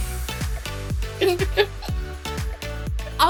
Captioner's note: both laughing